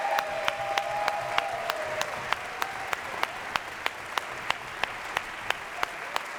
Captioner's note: audience cheers and applause continues